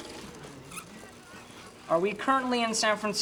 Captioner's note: machine whirring